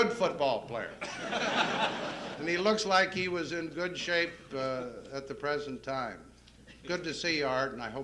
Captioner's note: laughter